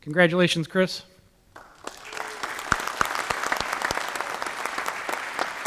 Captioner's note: applause